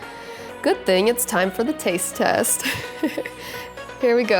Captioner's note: giggles